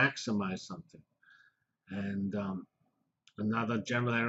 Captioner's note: pause